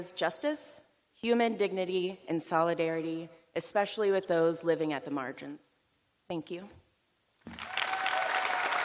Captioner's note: cheers and applause